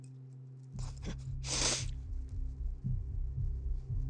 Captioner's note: sniffs